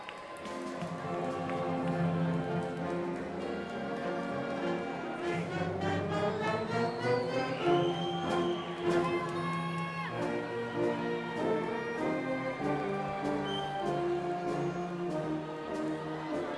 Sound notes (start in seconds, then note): 0.2 upbeat music; 7.2 crowd applauding; 10.6 upbeat music